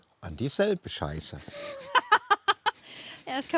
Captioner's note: laughs